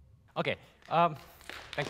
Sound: applause

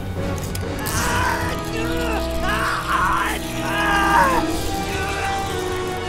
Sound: screams

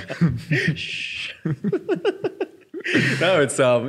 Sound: shushing

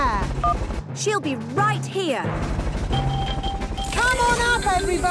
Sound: phone beeps; distant helicopter noise

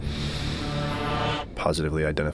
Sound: deep Breath

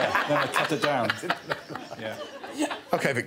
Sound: Alan laughing

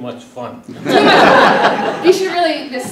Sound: laughter

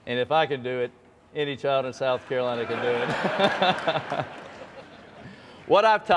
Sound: laughing

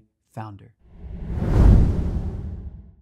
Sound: air whooshes

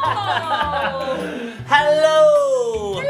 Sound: laughing loudly

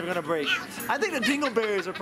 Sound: laughing

